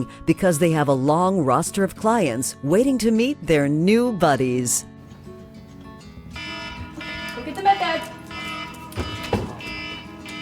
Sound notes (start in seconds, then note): 5.0 bright music; 6.3 alarm beeping